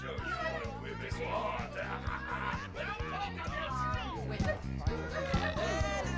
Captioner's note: people Shouting, Murmuring; belches